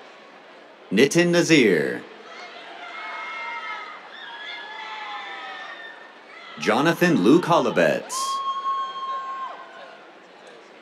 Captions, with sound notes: Nitin Nazeer. [CHEERS] Jonathan Luke Holobetz. [CHEERS]